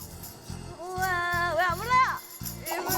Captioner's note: humming~